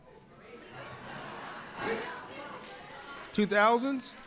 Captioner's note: audience laughs